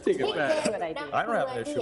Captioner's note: chattering